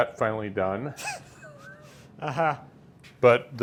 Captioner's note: men laughing